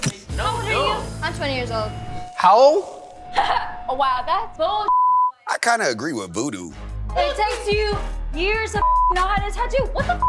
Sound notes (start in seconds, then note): 3.5 laughs; 4.8 beep; 8.8 beep